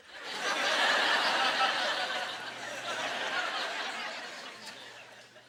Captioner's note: audience laughter